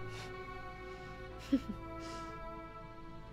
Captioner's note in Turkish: Gülme sesi